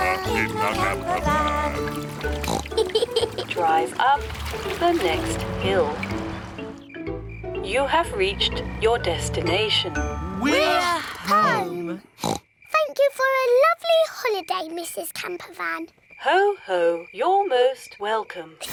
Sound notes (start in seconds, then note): 2.0 oinks and giggles; 12.2 oinks